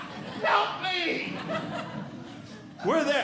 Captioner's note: audience Laughing